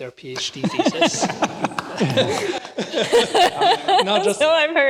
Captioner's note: laughter